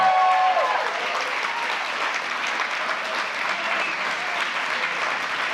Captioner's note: applause